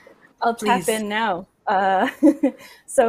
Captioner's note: laughs